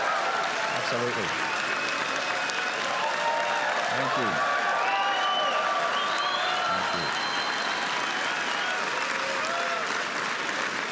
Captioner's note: applause and cheering